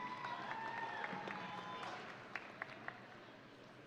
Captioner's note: audience cheering